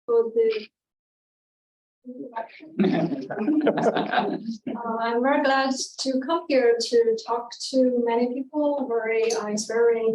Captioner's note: audience chuckling